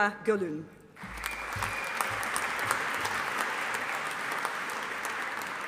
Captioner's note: audience applauding